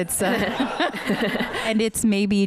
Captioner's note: laughter